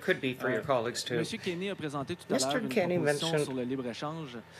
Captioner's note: speaking French